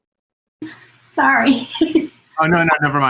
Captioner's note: laugh